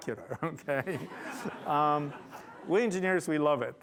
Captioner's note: laughter